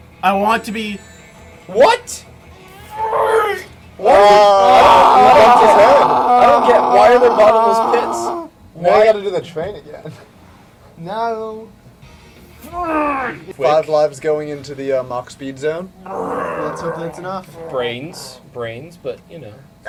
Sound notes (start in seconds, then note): 4.0 frustrated grunt; 12.7 grunts; 16.0 growls